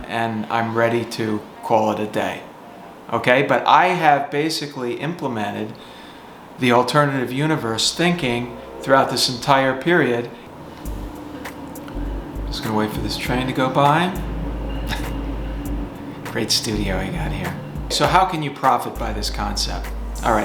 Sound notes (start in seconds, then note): 14.9 chuckling; 15.5 train roaring